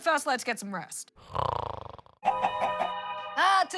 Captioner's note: snores